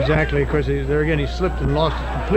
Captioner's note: wrestlers shouting; wrestlers thudding